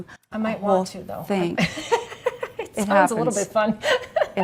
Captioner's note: chuckles